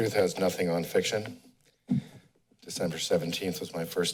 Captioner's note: pause